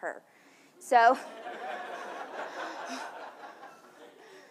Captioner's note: audience laughs